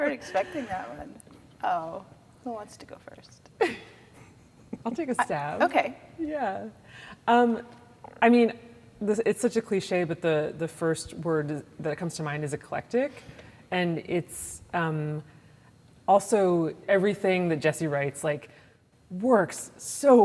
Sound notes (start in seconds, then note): 3.8 laugh